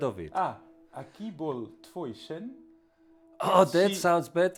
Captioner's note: host speaks in foreign language